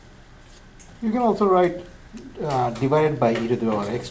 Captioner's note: voiceover